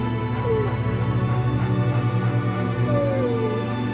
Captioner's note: whining